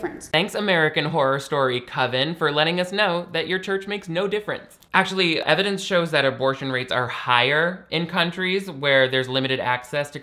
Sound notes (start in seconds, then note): none